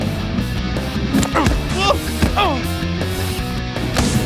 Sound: grunts

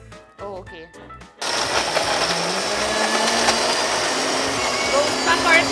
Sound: mixer-grinder whirring

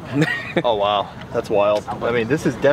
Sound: man laughs

